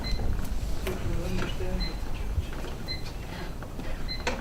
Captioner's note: microphone beeping